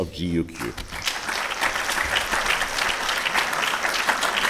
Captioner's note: audience applauding